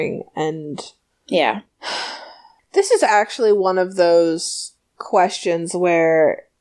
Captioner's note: sighs